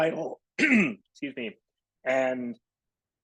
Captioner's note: clears throat